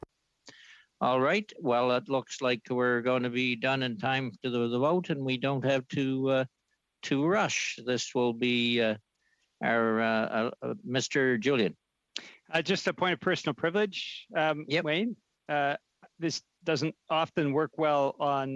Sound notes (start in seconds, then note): 3.8 speaking French